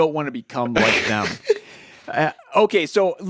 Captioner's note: laughs